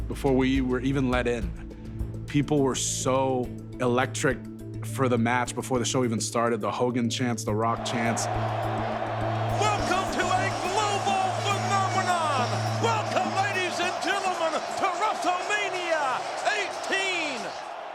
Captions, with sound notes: before we were even let in, people were so electric for the match before the show even started, the Hogan chants, The Rock chants. (tense music continues) (crowd cheering) Welcome to a global phenomenon. Welcome, ladies and gentlemen, to WrestleMania X8.